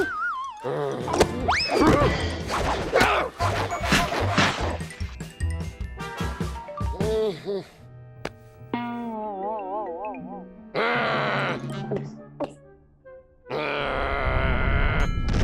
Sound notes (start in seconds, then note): 6.8 groans; 10.4 growling; 10.8 gulps; 13.2 growls